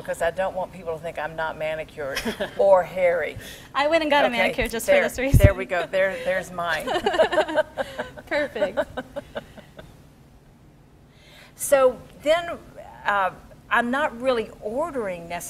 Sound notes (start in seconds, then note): 6.7 laughing